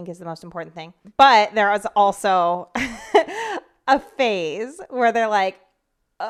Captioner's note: chuckles